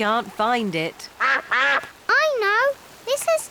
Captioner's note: quacking